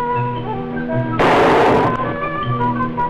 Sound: gunshot

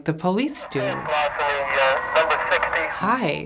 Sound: police chatter on radio

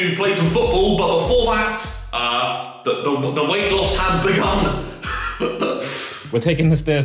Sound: laughs

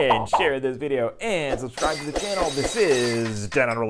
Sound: glass breaking

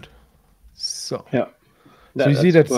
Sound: speaks faintly

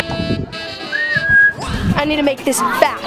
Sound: whistling

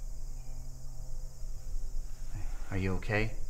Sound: insects chirping

